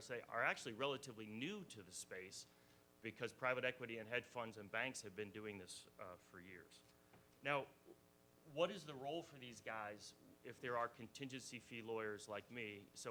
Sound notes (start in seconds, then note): none